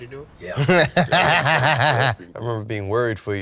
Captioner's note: laughs